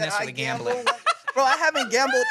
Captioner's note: laughs